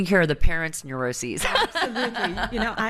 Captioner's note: everyone laughs